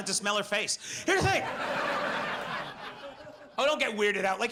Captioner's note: audience laughs